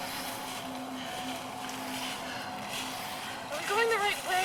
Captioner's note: all panting